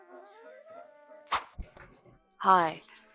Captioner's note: swish!